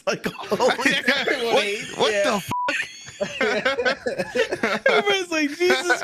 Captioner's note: beeps